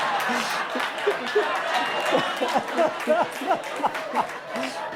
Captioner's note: audience laughing